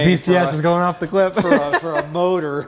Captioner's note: laughs